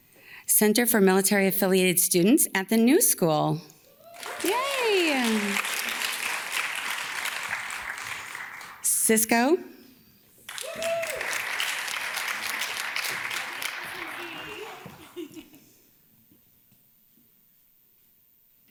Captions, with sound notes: Center for Military-Affiliated Students at the New School. Yay. (audience claps) Cisco. (audience cheers and claps) (audience claps) (audience member laughs)